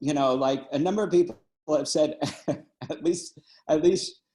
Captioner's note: laughing